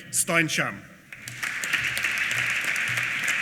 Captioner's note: applause